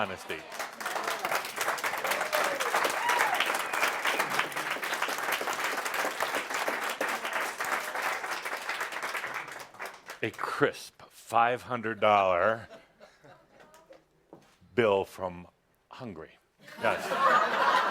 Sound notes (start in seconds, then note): 0.0 audience approval and applause